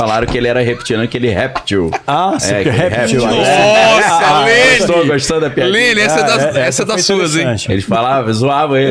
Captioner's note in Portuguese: risadas